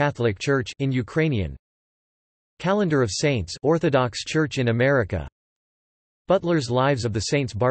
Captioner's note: in Ukrainian